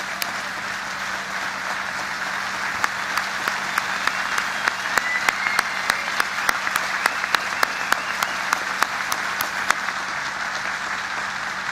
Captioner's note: applause